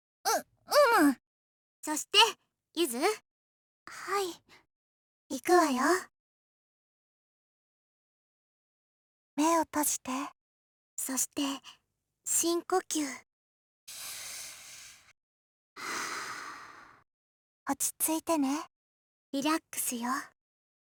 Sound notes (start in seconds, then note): 7.2 silence; 13.9 exhale; 15.8 inhale